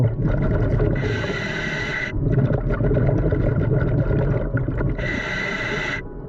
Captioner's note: gentle music; mouthpiece hissing